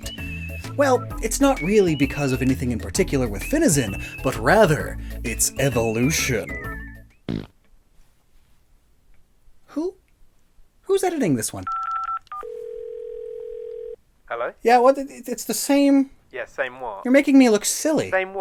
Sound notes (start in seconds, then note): 7.2 fart; 14.2 phone dial and ringing SFX